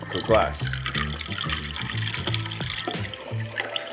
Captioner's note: liquid flowing